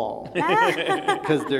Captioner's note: laughing